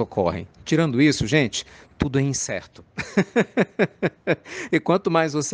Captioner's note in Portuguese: risadas